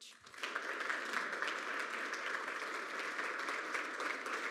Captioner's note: applause